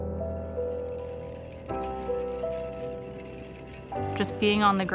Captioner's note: rattling